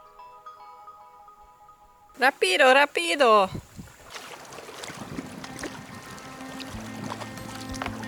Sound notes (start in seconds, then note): 2.4 speaks in foreign language; 5.2 relaxing music